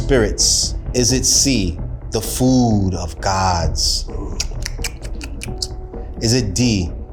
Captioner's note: nibbles